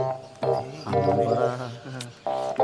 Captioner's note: indistinct chatter